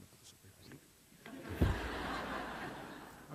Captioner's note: laughter